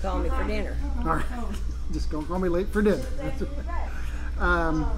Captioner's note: laughs